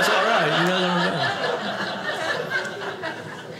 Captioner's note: audience laughing